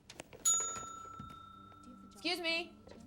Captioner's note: bell dings